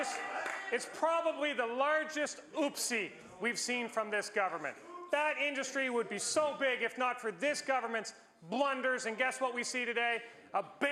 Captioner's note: some Applause